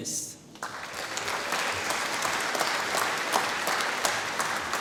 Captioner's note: applause